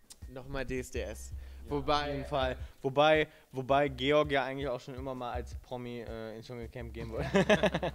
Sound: laughs

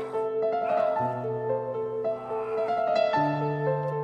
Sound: groaning

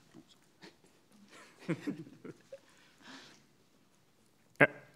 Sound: laughing

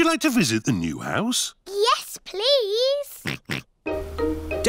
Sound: oinks

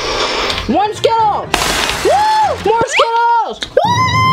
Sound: slurps; crashing sound

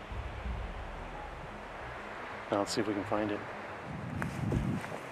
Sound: wind whooshing

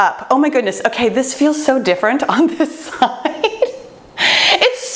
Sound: chuckles

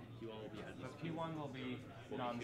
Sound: students chattering

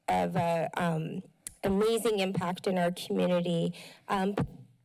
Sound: clicks tongue

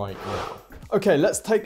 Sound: screen wipe whooshes

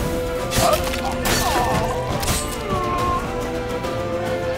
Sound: groan

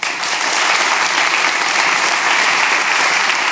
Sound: applause

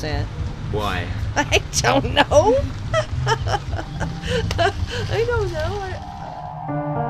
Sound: laughs

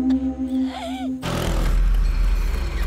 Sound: bike tire

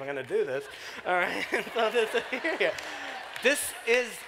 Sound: laughter

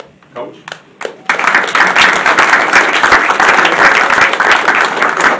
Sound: audience applauding

